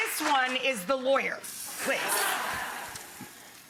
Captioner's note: pot sizzles; audience laughing